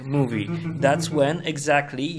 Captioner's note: laughs